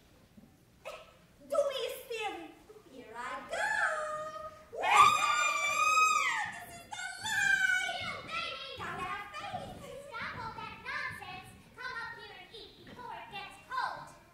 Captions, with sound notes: Dubious theory. Here I go! [Screaming] This is the life! You, Baby! Gotta have faith-- Stop all that nonsense. Come up here and eat, before it gets cold.